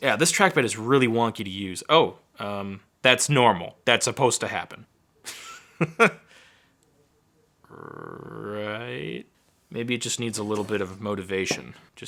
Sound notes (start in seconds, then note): 5.1 laughing